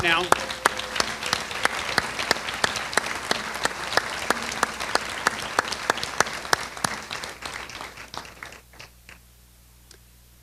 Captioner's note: applause